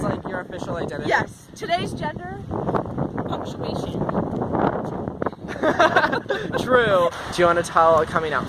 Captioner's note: laughter